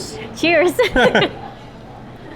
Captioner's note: laughs